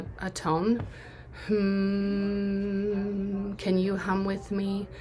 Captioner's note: humming